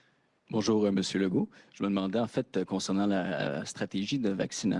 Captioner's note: speaks French; speaks French